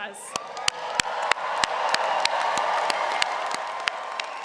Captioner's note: cheering